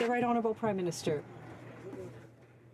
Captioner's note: some Applause